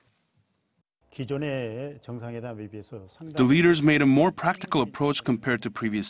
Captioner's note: Korean